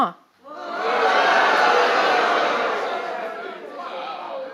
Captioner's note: audience clamouring